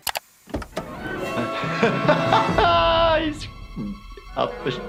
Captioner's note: laughing